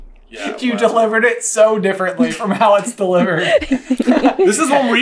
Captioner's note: laughter